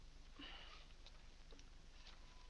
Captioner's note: sighs